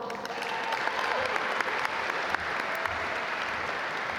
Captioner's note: audience applaud